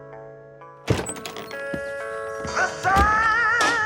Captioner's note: soft music continues; door rustles open